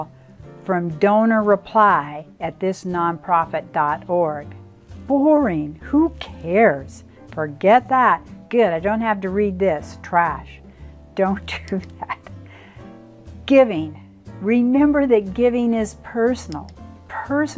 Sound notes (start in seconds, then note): 11.8 laughs